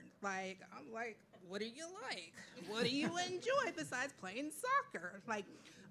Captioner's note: laughing